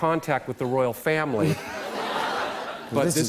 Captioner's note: laughter